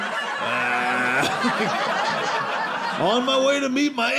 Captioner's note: audience laughing